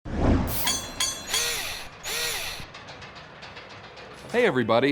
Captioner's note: mechanical SFX